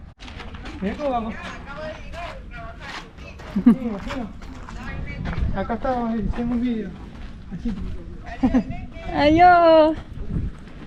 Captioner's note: sounds in spanish while speaking on the phone